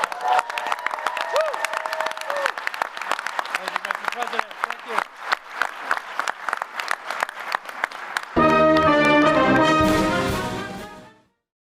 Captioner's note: applause